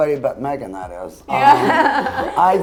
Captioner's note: laughs